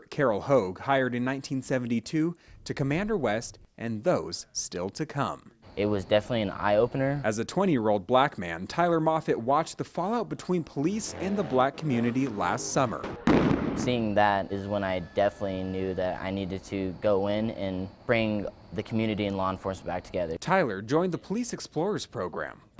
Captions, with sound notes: CAROLE HOGUE, HIRED IN 1972, TO COMMANDER WEST AND THOSE STILL TO COME. IT WAS DEFINITELY AN EYE OPENER. AS A 20-YEAR-OLD BLACK MAN, TYLER MOFFAT WATCHED THE FALLOUT BETWEEN POLICE IN THE BLACK COMMUNITY LAST SUMMER. [BANG] SEEING THAT IS WHEN I DEFINITELY KNEW THAT I NEEDED TO GO IN AND BRING THE COMMUNITY AND LAW ENFORCEMENT BACK TOGETHER. TYLER JOINED THE POLICE EXPLORERS PROGRAM.